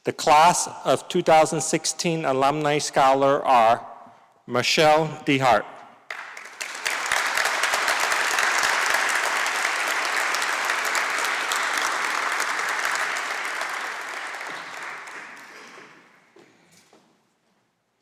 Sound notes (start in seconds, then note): 11.1 applause